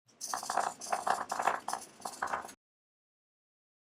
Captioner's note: sound of pencil scratching